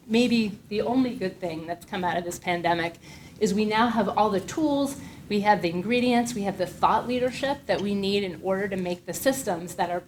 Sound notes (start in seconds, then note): none